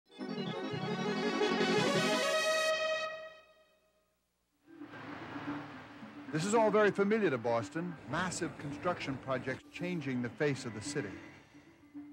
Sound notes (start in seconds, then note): 0.1 upbeat music; 4.9 excavator reverberating